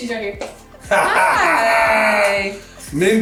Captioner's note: laughing